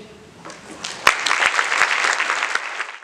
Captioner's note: audience applauding